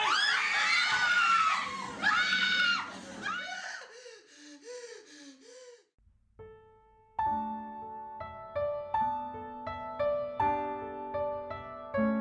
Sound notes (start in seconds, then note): 0.0 voices screaming. One voice left behind; 3.5 terrified breathing. Gasping